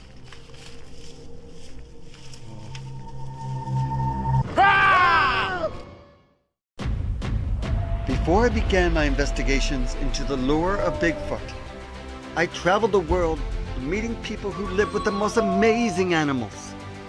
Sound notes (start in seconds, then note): 0.0 ominous music; 4.5 yell